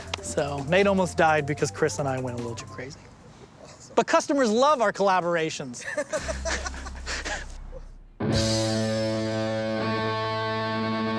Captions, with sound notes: So Nate almost died because Chris and I went a little too crazy. But customers love our collaborations! (laughing) (punk rock music)